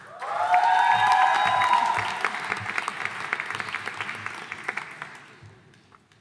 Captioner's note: audience cheering and applauding